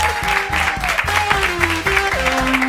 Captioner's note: applause; organ music